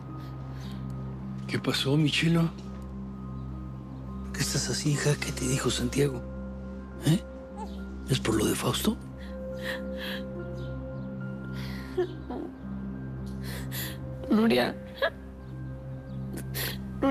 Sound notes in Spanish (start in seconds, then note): 9.2 Sollozos